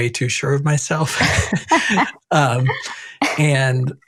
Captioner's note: both laugh